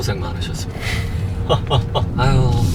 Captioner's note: laughs